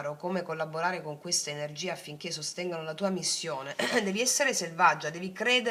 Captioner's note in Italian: schiarire la voce